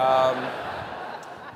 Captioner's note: laughter